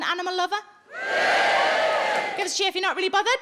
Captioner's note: audience cheers